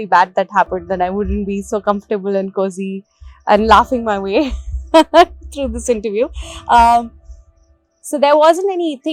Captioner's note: laughs